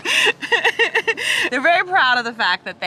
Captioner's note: chuckles